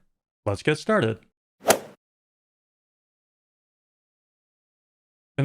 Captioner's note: golf ball hit sound